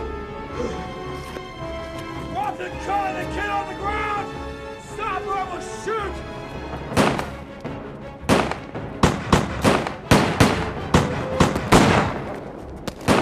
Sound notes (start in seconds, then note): 8.2 guns firing